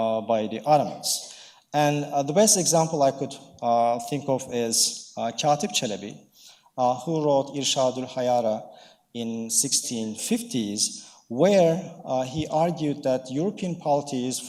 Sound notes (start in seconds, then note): 7.9 speaking in foreign language